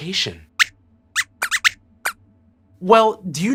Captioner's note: squeaks squeaks